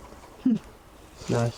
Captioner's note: scoffs